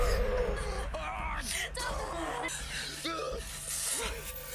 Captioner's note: Dalton growling